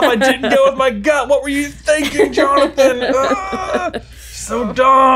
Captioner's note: exclaims